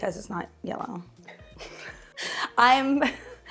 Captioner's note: both chuckle